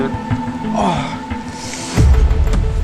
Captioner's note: inhales Deeply